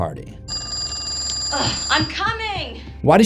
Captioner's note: phone rings